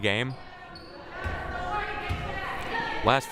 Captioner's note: crowd murmuring